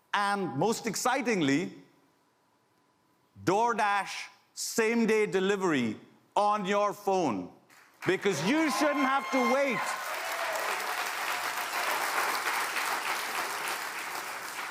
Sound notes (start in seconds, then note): 8.5 applause